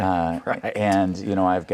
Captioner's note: laughing